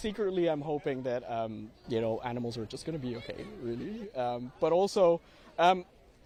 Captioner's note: laughter